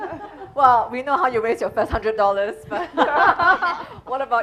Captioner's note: laughing